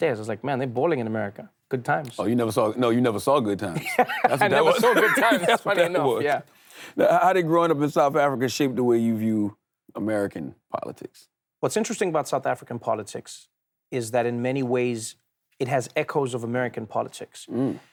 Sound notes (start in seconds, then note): 3.7 Trevor laughs; 3.8 laughs